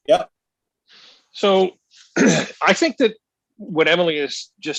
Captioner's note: clears throat